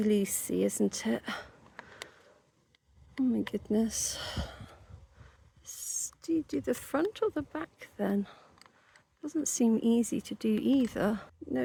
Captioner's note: sigh